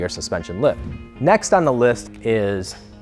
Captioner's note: whoosh